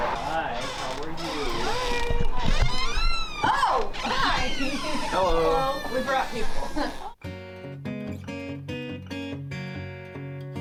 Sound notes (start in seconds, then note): 0.0 door creaking; 6.8 laughing; 7.2 soft guitar music